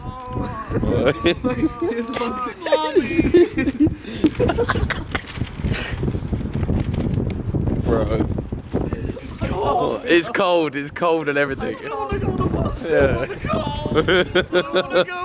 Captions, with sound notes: - Oh. Mommy! (laughing) (wind blowing) - Bro. - It's cold! - It's cold, it's cold and everything. - I wanna go to the bus when it comes.